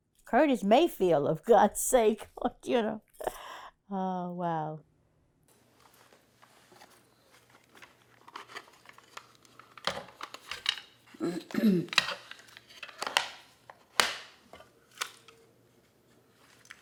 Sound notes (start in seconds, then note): 7.9 clattering; 11.2 clears throat